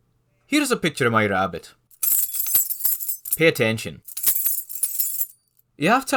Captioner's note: jingle-jingle